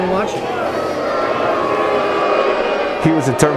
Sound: audience booing

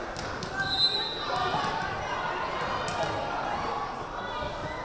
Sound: whistle blaring

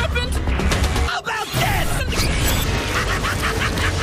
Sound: laugh

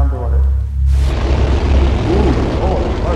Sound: engine revs

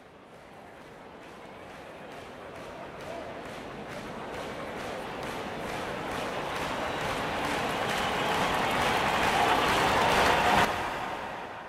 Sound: large crowd increasing in volume

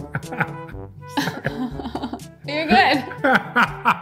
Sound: playful music; laughing

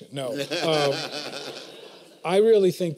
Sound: laughter

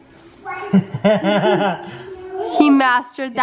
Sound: laughing

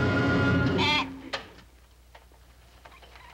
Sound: bleating

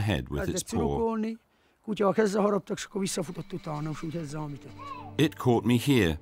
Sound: speaking in foreign language

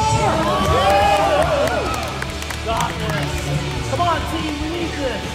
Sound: crowd cheering

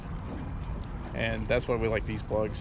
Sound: tackle rattling

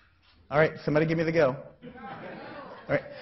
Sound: crowd

